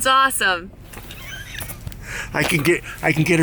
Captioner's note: laughs